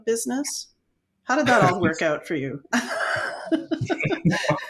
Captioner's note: laughing